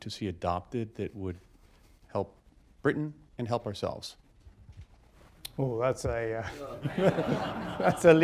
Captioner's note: laughter